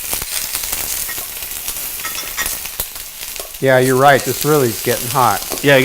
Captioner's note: sizzling